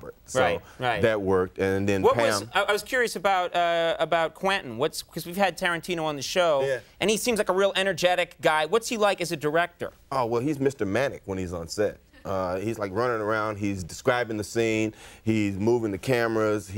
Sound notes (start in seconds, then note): none